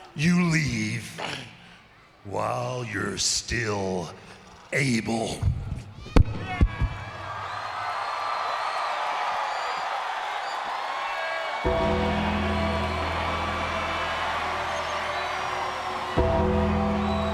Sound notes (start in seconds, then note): 8.2 crowd cheering; 11.6 creepy music